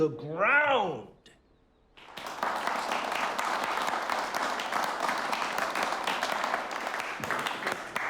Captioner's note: applause